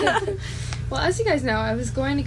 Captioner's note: we all giggle